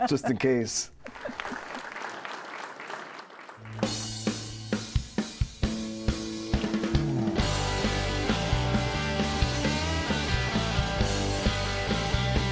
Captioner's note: applause